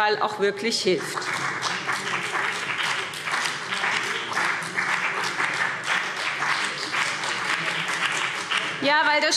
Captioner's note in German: Beifall BÜNDNIS 90/DIE GRÜNEN und CDU – Zuruf